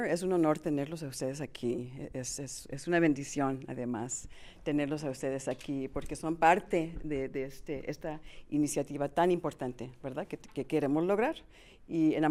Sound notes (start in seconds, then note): 2.5 in Spanish; 5.5 in Spanish; 9.6 in Spanish; 11.5 in Spanish